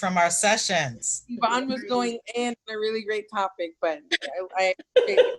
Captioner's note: laughter